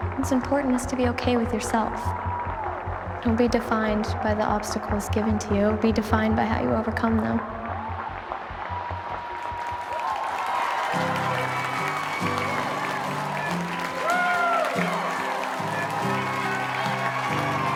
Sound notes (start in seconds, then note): 2.2 audience cheers and applauds; 2.2 gentle suspenseful music; 9.4 audience cheers and applauds; 10.4 gentle upbeat music